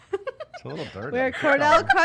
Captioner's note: laughing